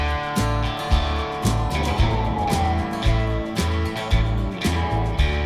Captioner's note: police siren wailing